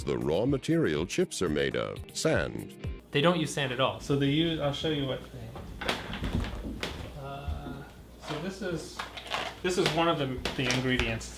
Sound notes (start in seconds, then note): 5.4 chair clicking